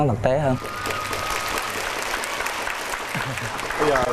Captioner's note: applause